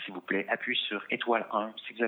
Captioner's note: speaking in French